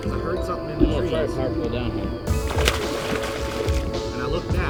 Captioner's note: fish splashing